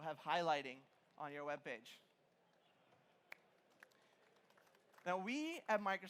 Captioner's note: applause